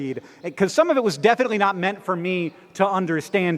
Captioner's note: none